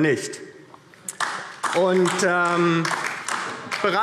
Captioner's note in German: Beifall DIE LINKE